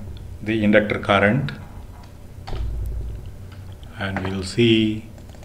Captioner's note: short circuiting